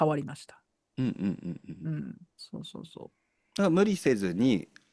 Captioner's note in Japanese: 咳払い